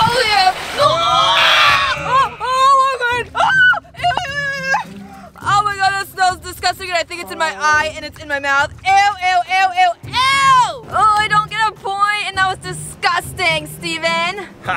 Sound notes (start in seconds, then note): 0.8 groans; 3.6 yells